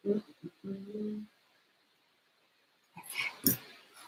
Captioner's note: hums